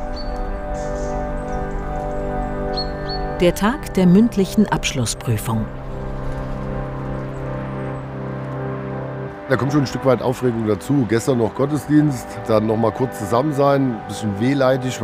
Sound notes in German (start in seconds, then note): 0.5 Sphärische, nachdenkliche Musik; 2.5 Vogelgezwitscher; 6.5 Sphärische Musik